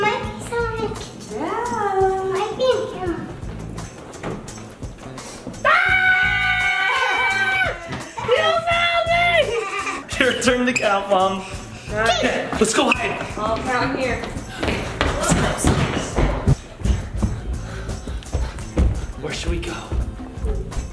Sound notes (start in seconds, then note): 5.6 screams; 9.2 laughs